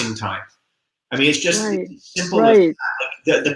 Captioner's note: voice muffled